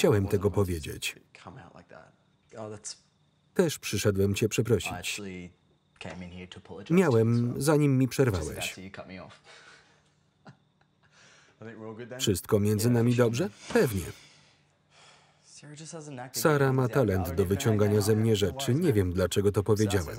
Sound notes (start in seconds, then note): 9.4 laughter